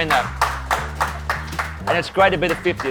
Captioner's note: Taaliyan bajti hui; तालियाँ बजती हुई